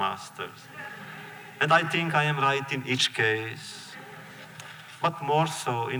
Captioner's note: laughter